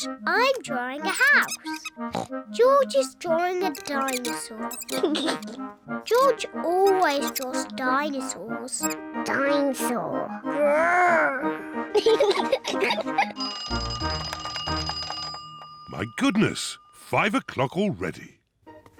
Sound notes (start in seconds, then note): 2.0 oinks; 10.7 growls; 11.9 both laugh; 13.2 clock rings